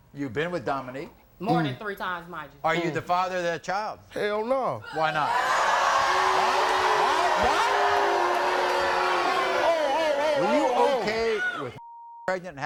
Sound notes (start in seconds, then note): 5.0 crowd shouting; 9.7 shouting